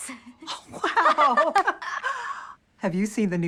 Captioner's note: laughs